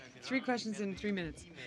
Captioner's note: speaking French